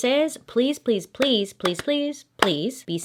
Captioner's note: hands clapping